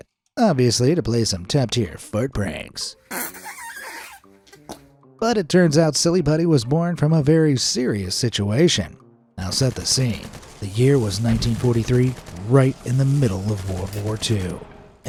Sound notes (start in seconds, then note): 3.1 silly putty squeaks